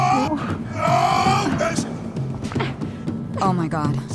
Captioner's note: grunting